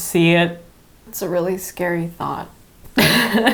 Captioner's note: laughs